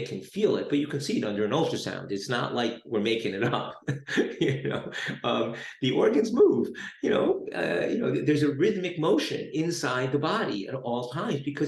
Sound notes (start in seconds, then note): 3.3 laughs